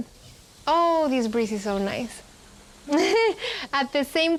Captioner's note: laughs